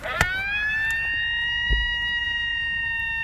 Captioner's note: howl